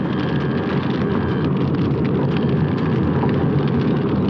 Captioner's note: none